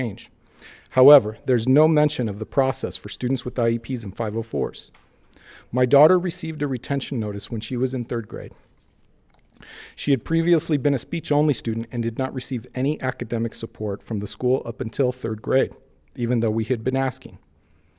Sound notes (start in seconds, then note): none